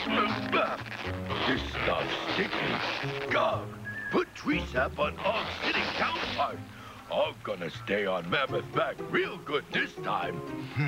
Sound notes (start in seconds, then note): none